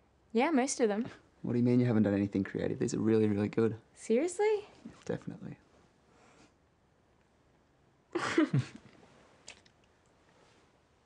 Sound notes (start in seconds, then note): 8.2 giggling